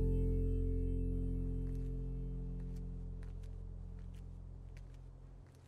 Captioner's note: footsteps pattering